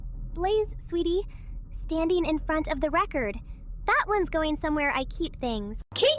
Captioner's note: quietly